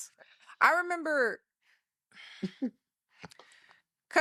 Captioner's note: laughing